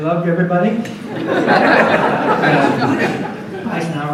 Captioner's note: audience laughs